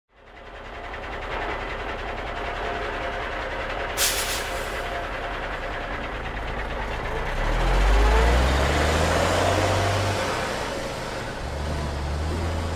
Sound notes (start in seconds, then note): 0.2 truck sounds; 8.5 truck pulling away